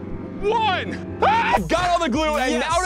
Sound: screams

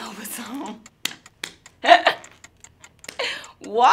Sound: claps

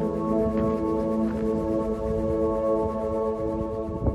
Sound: wind rushing

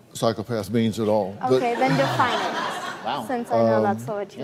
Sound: audience laughs

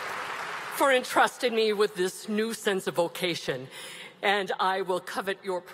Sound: cheers and Applause

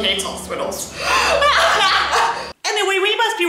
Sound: wheezes like there's no tomorrow

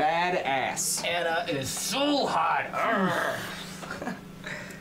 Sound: growl

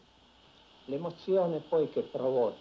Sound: speaking in Italian

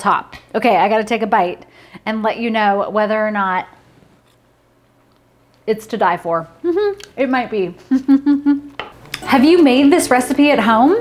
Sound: laughing

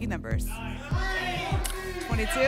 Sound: audience shouting numbers

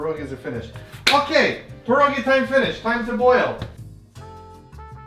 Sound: clap

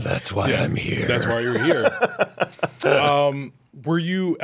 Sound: Pedro laughing

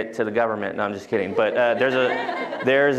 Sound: laughter

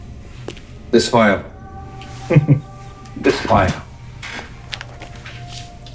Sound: chuckles

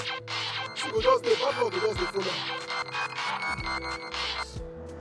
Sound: cell phone ringing

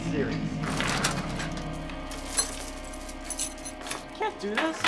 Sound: chain rattling

